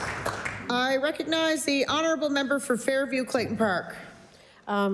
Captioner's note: applause